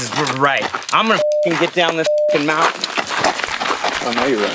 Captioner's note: beep